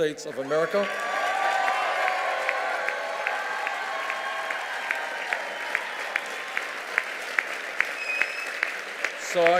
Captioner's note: cheers and applause